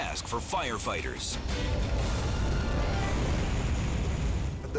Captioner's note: fire roaring